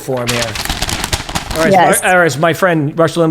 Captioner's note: paper rustling